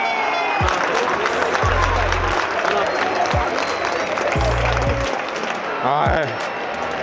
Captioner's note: But applause of encouragement to the Mallorca players